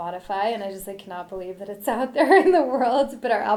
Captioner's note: laughs